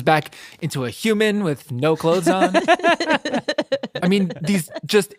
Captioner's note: laughs